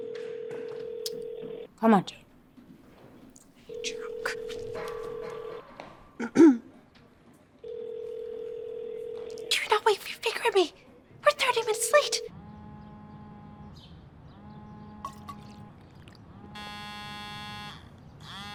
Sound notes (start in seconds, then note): 12.5 phone buzzing